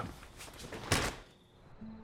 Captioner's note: door closes